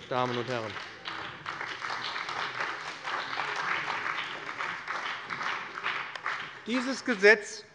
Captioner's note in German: Beifall bei dem BÜNDNIS 90/DIE GRÜNEN und der CDU